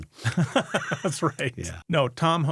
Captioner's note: laughing